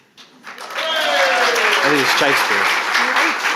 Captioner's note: audience applauding and cheering